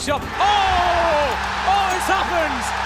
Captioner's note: crowd cheering